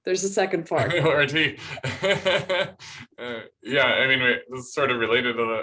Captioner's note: laughter